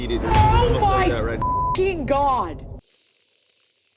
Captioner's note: beep